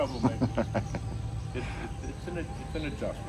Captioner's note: laughs